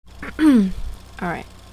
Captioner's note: clears throat